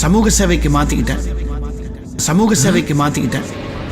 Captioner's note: earlier conversations echoes